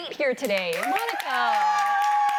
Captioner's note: applause